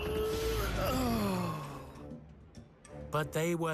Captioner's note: sighs